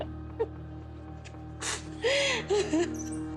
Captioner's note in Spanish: Sollozos